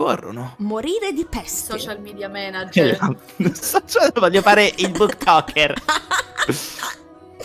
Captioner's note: laughing